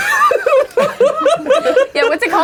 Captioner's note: laughing; laughs